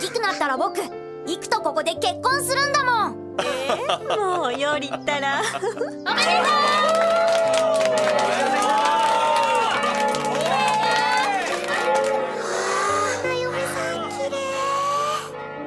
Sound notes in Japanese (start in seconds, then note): 11.6 群衆が叫んでいます